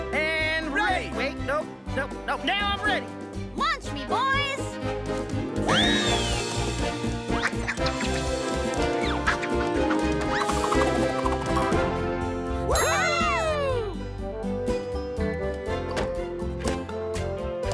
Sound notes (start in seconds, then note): 5.5 upbeat music; 12.7 animals cheer; 14.8 upbeat music